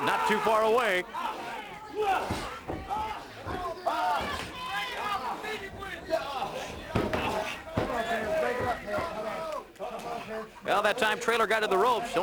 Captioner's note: crowd chatter